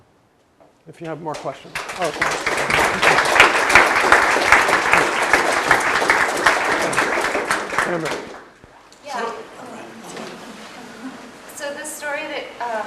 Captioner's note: applause